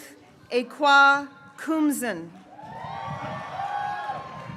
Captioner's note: graduates cheering